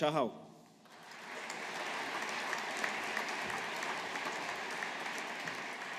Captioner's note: audience applauding